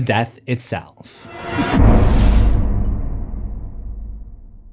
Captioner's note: impact